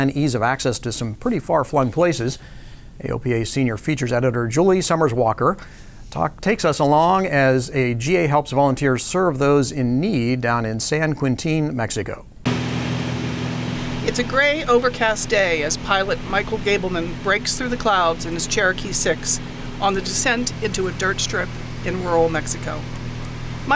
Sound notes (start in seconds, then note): 12.3 engine humming